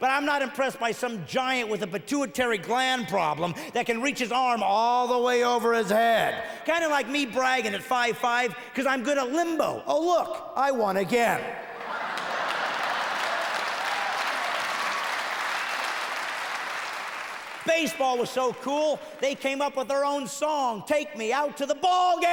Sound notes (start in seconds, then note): 15.6 laughter; 16.3 heavy applause